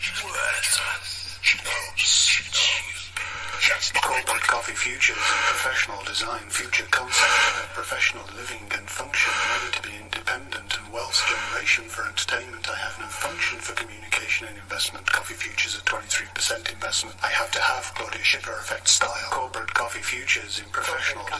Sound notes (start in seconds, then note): 3.0 heavy breathing